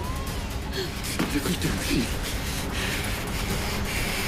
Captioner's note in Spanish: Habla entre dientes